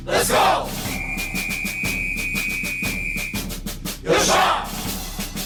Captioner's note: military cadence playing; speaking in foreign language